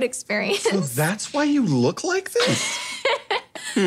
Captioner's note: laughing